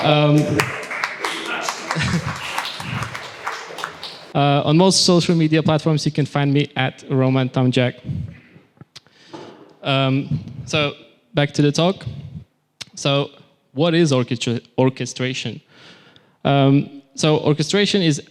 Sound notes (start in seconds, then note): 0.0 applause